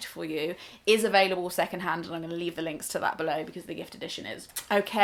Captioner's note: kiss